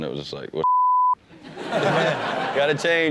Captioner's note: beep sound